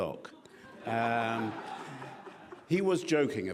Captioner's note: laughing